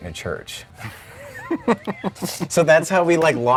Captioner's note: laughing